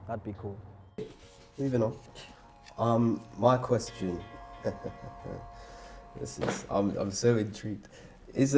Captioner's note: laughs